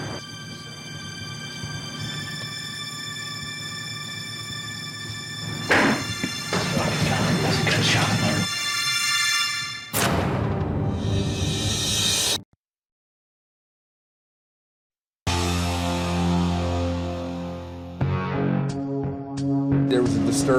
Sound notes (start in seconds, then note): 5.2 gunshot